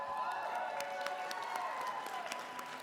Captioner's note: applause